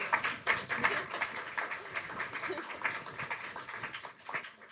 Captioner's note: audience applauding